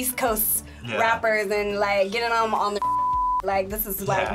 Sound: beep

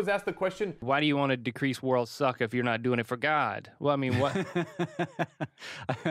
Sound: chuckling

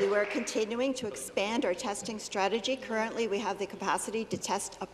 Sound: applause

